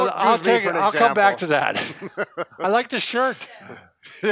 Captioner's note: laughs